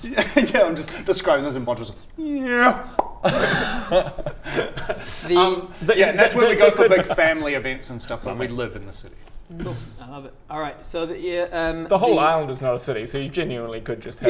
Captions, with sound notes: Yeah I'm just describing this and Bodger's like *nyerrrrrra...pop!* The-- yeah that's where we go for big family events and stuff but we live in the city cool, I love it alright, so the The whole island is not a city so you genuinely could just